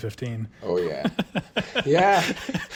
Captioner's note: laughs